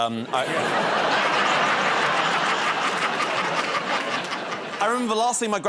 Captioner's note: laughter